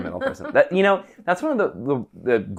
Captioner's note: laughing